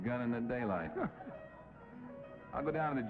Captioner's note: laughs